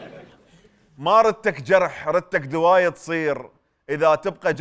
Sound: poetically

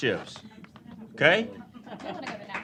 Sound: applause

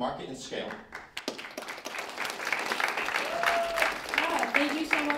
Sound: applause

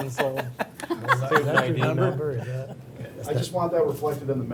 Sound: laughing

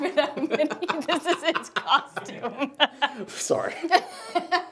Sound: laughs; laughing

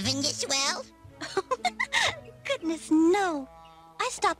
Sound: giggles

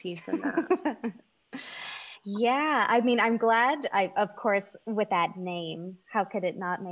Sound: laughing

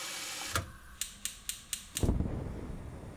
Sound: pilot light clicking

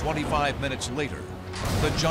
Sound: explosions

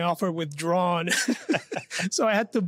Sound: laughs

